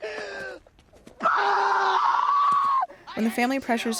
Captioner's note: shrieking